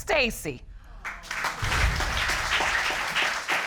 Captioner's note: audience applauding